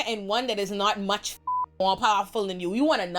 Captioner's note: beep